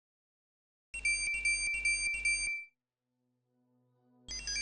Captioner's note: electronic beeping